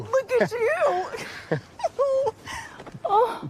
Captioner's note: laughter